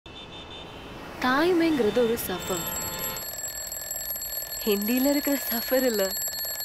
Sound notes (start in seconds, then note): 2.4 alarm ringing